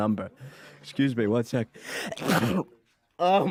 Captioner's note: sneezes